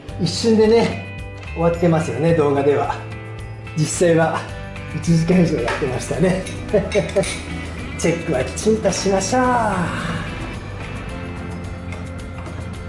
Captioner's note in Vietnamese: cười